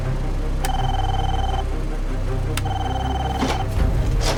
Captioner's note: door buzzer